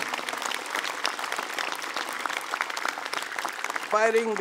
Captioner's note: applause